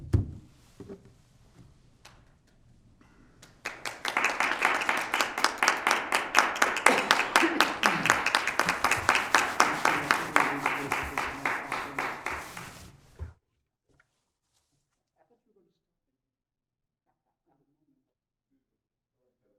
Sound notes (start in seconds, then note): 1.5 applause